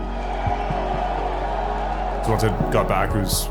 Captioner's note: crowd cheers